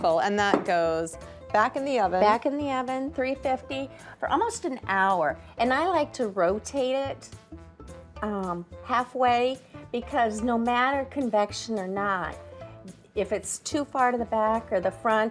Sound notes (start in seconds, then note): none